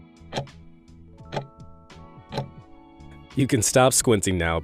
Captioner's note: timer ticking